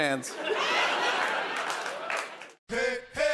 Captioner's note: laughter